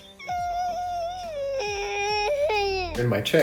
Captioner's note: crying